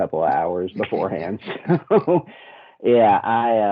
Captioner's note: laughing